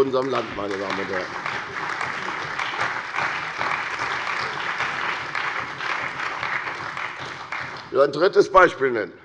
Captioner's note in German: Beifall bei der CDU und dem BÜNDNIS 90/DIE GRÜNEN